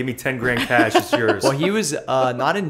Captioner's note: laughter